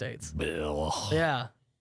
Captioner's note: groans